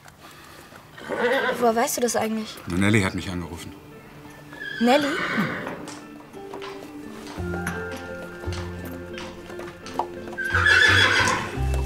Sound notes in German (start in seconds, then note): 6.3 Wiehern